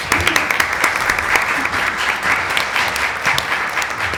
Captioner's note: applause; laughter